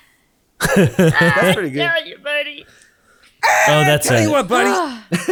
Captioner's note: laughing; laughing